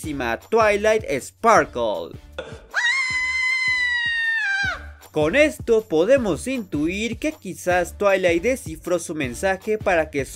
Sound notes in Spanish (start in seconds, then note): 2.6 Gritos de perra loca